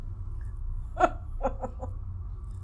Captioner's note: laughing